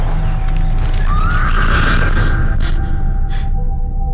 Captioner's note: gasping; Mattie screams